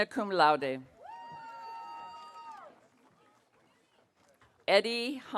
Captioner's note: audience cheering